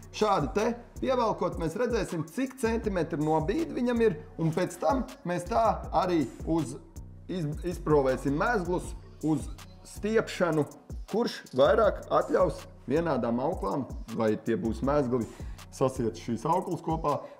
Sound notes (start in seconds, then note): none